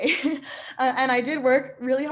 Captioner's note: laughing